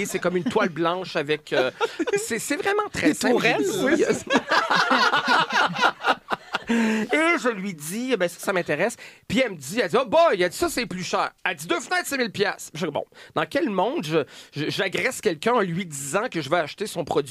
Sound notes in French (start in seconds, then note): 3.3 rires